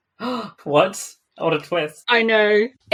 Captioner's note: gasps